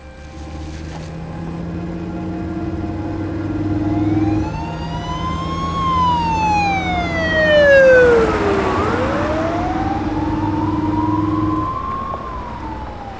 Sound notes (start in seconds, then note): 3.5 siren blaring